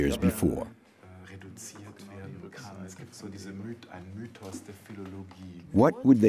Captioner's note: speaking in a foreign language